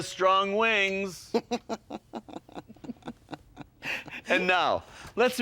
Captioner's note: chuckling